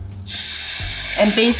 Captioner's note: water sizzling